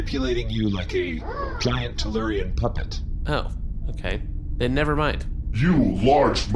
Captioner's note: whirr